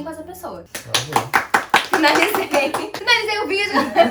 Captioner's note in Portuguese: aplausos